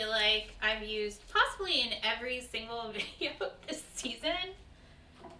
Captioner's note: laughs